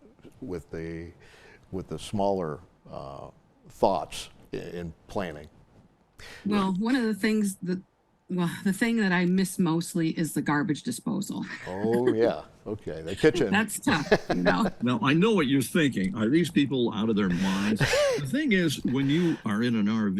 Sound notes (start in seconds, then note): 13.9 chuckling